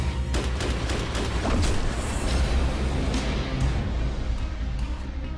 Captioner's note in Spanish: Disparos